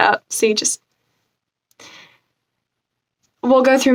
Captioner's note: inhale